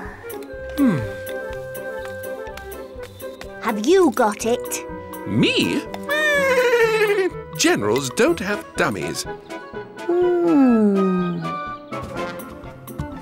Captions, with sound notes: (sighs) - Have you got it? - Me? (neighs) - Generals don't have dummies. - Hmm...